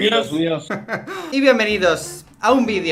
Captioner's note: giggles